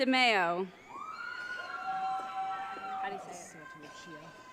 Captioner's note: audience cheering